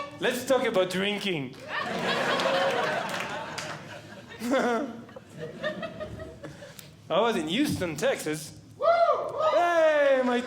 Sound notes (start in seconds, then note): 1.6 audience Laughing; 4.6 laughs